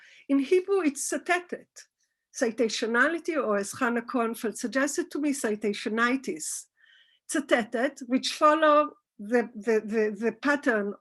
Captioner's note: Hebrew